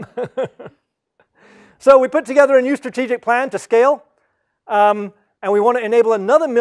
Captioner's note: laugh